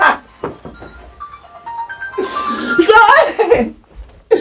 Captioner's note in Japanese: スマホの着信音